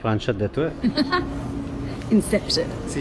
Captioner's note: laughs